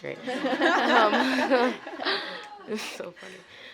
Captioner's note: laughter